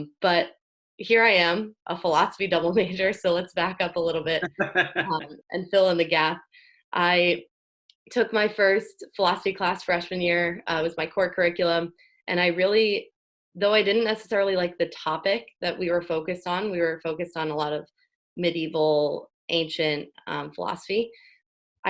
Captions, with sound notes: But here I am a philosophy double major. So let's back up a little bit, (laughs) and fill in the gap. I took my first philosophy class freshman year was my core curriculum and I really, though I didn't necessarily like the topic that we were focused on, we were focused on a lot of medieval ancient philosophy.